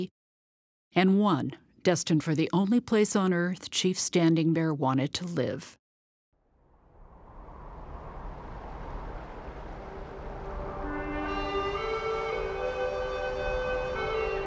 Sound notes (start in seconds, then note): 6.3 rushing water; 10.8 melodic music